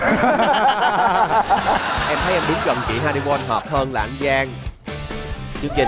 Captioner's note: laughing